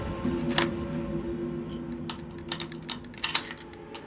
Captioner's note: locks clicking